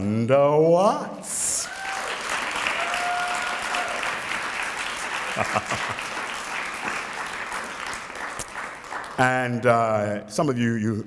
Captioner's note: applause